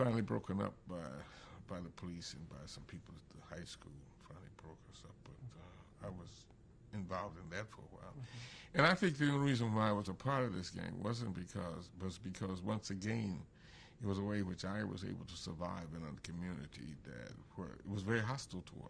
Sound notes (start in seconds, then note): none